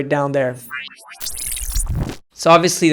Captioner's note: metallic beeping